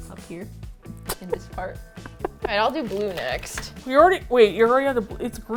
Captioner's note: laughs